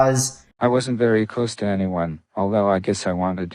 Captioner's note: AI Voice